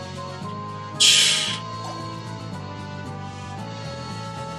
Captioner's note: scoffs